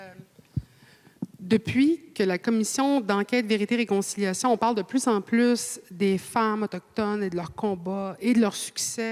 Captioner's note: speaking French